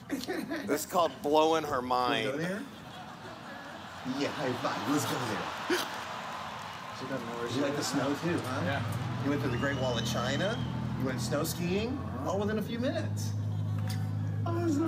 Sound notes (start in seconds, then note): 2.4 laughter; 3.9 cheers